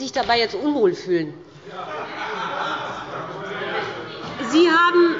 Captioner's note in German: Heiterkeit bei der SPD